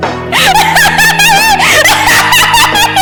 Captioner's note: laughing hysterically